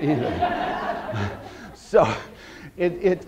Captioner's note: audience laughter